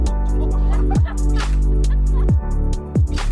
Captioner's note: laughter